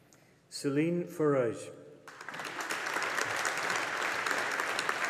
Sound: audience applauding

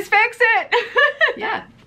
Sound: laughs

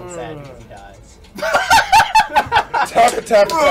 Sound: laugh

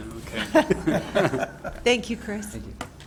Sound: laughter

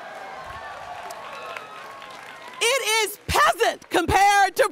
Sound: students cheering

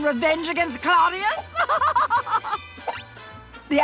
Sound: laughing

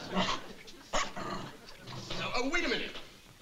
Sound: dog barking

